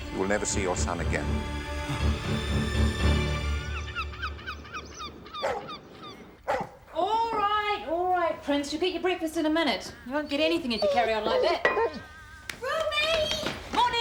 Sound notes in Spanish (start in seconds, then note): 6.4 perro ladrando